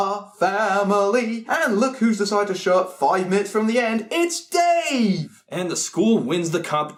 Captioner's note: singing; sarcastically excited